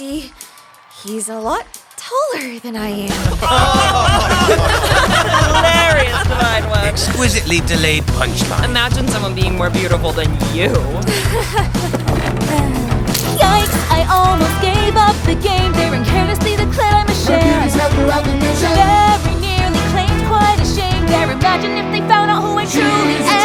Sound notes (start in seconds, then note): 3.2 laughter; 10.0 Scarla laughs nervously